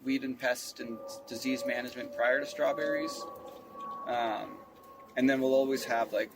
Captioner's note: plane flies overhead